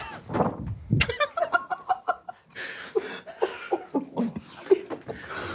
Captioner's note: laughs; group quietly laughs